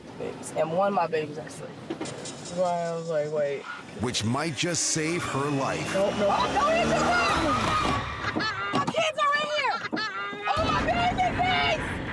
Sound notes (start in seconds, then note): 7.0 baby crying